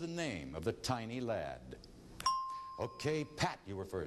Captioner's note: ding